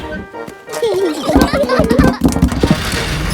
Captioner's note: children giggling